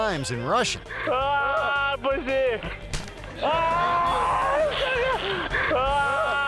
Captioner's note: man speaking in foreign language